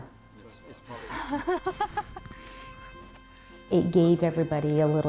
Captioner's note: Sacajawea Laughing